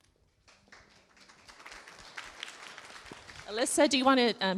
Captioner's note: clapping